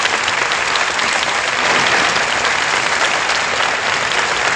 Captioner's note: applause